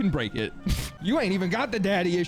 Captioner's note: scoffs